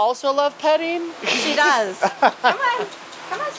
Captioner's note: laughs